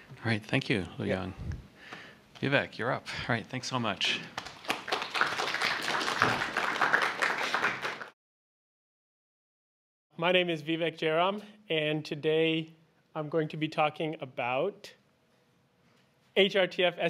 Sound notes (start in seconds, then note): 4.3 applause